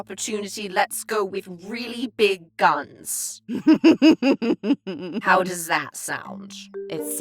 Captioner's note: giggles